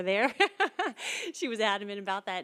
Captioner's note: laughter